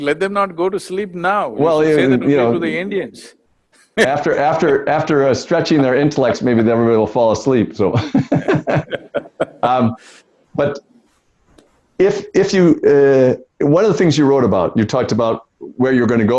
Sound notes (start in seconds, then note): 3.9 Sadhguru laughs; 7.9 both laugh